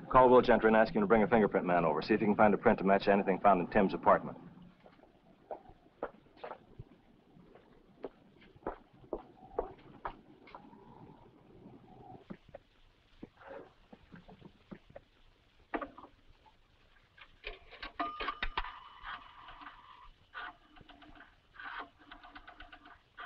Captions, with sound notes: a fingerprint man over. See if he can find a print to match anything found in Tim's apartment. (payphone dings) (rotary phone dialing)